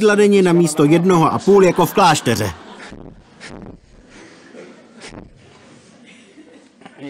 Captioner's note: laughter